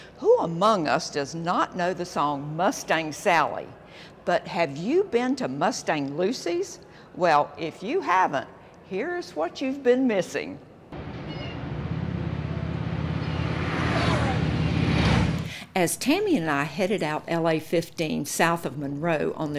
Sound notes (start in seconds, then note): 10.9 engine roaring